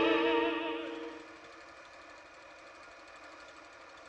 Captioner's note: projector Whirring